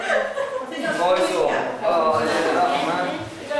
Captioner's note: giggling and talking